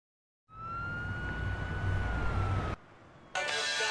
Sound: siren

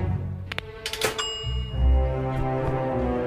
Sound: oven bell dings

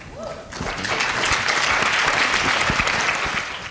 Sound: applause

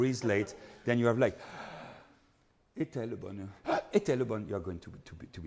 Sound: breathes deeply

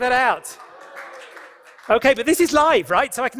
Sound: applause

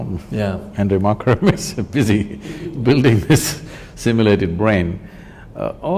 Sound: both Laugh

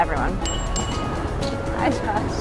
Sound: bike bell rings

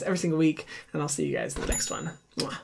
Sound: bell ringing

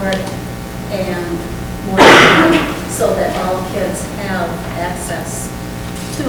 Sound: coughs

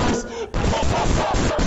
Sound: breath

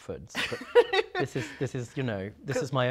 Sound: laughing

